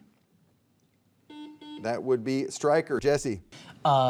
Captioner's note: buzzer beeping